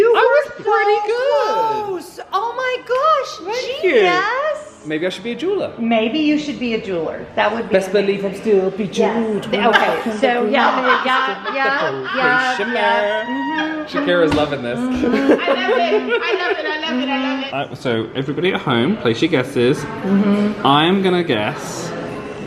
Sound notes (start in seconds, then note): 14.7 laughing